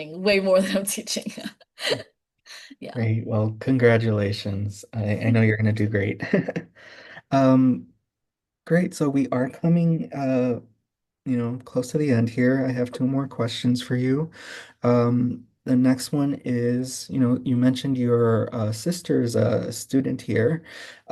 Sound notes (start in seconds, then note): 1.8 laughing; 8.1 laughing